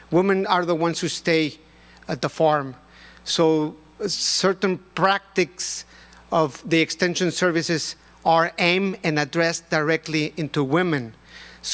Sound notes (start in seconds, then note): none